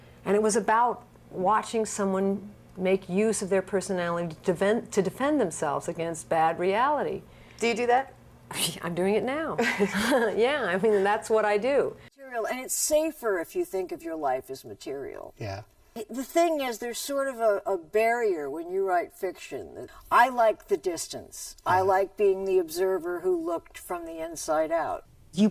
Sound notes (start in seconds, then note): 9.6 laughs